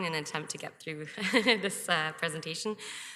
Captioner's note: chuckles